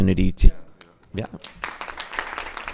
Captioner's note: crowd applauding